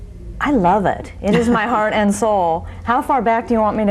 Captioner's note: laughing